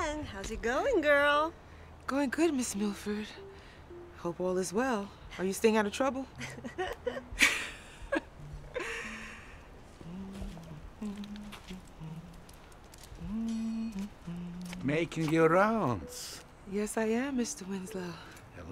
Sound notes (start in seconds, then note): 6.4 both chuckle; 10.3 Leanne humming